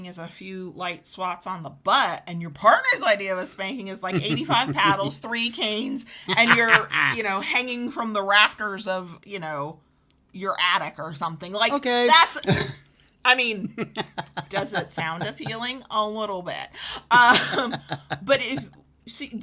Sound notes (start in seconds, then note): 6.2 laughs; 17.2 chuckles; 17.2 laughs